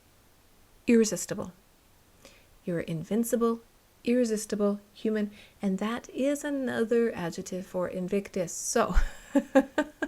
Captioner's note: laughter